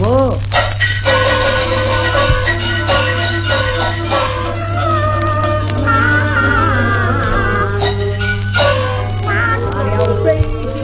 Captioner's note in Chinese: 哭相思介